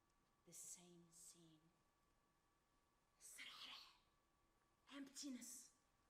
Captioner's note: speaks Arabic